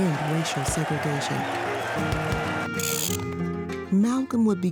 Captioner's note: upbeat music; reel whirring